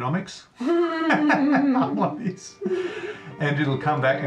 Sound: laughs

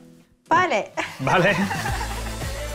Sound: in spanish

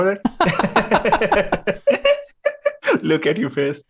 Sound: laughter

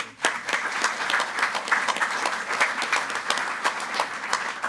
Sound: group applauding

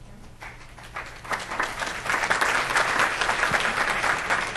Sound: crowd applauds

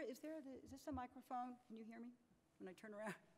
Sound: none

